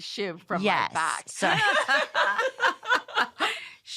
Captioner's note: laughter